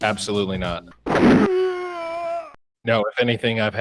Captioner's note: pain sound